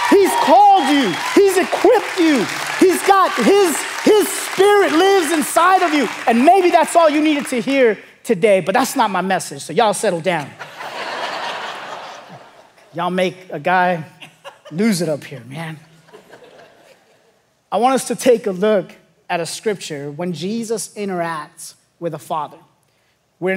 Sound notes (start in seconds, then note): 10.4 congregation laughing